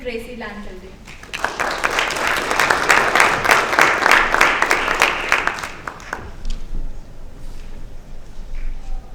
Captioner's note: applause